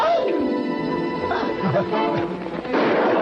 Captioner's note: gunshot fires